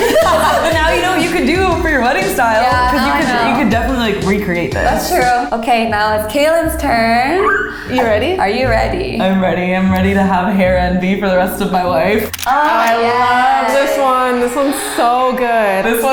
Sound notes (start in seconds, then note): 0.0 all laugh; 7.4 gasps